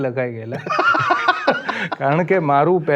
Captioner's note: laughs